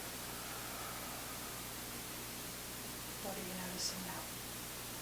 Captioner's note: exhaling